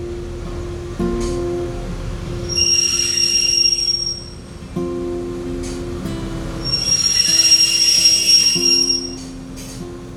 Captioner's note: sound of train breaking